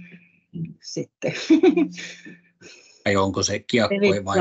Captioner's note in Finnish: Naurahtaa